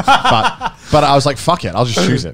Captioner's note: laughs